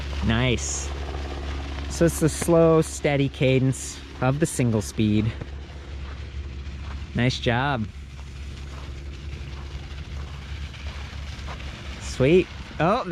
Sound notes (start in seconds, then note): 10.0 eBike motor revving